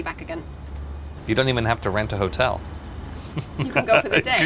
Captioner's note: laughs